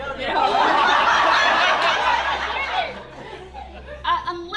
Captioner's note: laughter